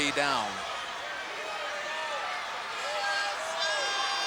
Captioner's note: crowd yelling